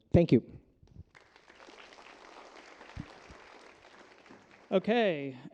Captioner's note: applause